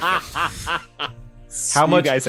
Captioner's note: laughing